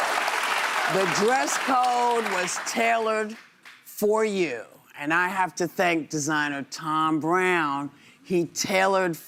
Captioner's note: cheers and applause